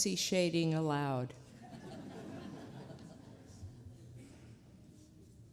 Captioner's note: laughter